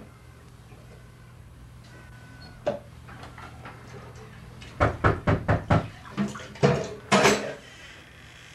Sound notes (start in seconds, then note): 4.8 knocking at door